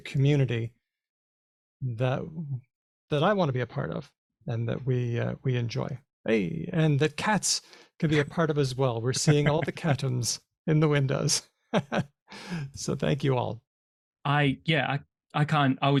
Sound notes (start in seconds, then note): 12.0 chuckles